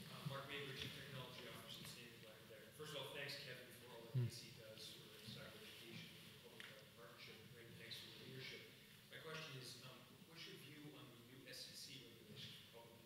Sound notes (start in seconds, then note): 1.0 speaks faintly; 6.5 speaks faintly